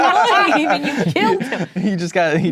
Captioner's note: players laughing